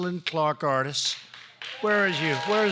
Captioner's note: applause